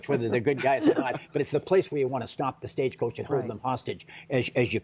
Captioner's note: laughter